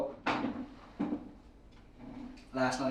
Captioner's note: wooden chair dragged on stone floor